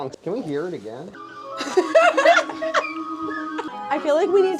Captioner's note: slide whistle trilling